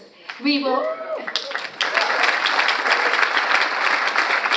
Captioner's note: audience applauds